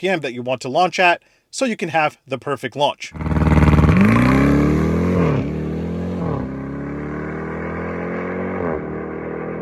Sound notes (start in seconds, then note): 3.1 engine revving